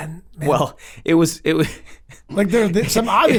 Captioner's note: laughs